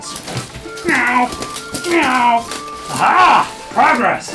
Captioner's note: meows